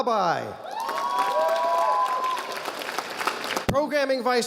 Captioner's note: audience applauding